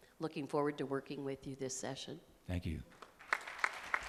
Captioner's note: applause